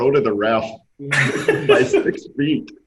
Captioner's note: all laugh